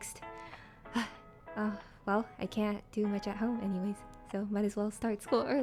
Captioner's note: sigh